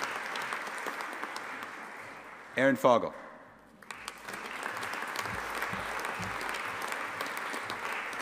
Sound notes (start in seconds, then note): 3.7 audience applauding